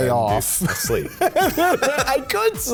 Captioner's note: both laugh